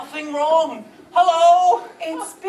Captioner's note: normal voice